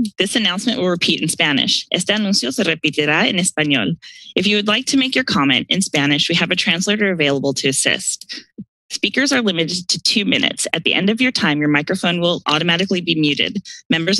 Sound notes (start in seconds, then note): 2.1 speaks in Spanish